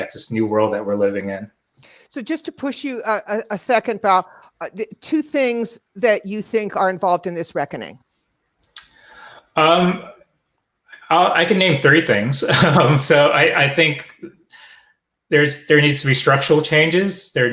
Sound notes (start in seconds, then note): 12.5 laughs